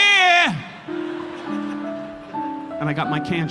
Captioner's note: audience laughing